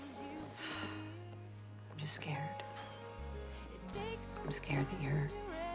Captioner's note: sighs